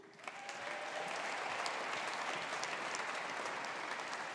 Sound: audience applauding

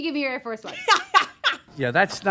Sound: laughing

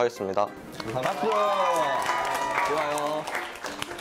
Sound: clapping

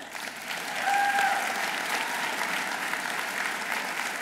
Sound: audience applauding

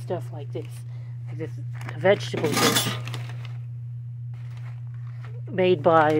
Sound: clank

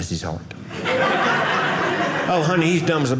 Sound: audience laughing

